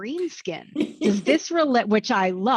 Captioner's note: laughs